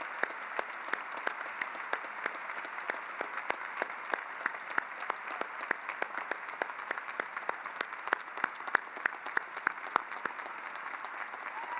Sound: cheering and applause

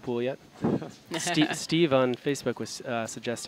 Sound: laughing

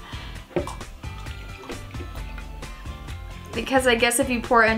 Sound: liquid pours

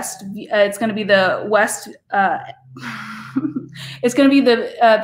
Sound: laughs

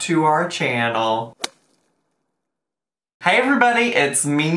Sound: slapping sound effect

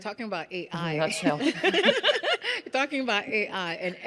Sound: laughing

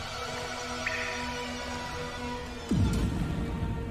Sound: water drops falling

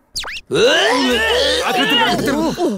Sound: retching

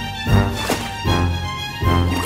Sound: water splash sound; bubbling sound

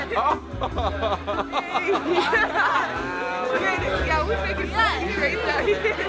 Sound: chatter

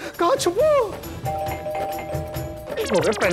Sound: doorbell ringing

